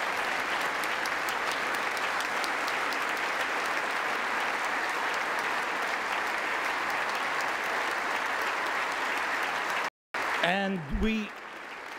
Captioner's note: applause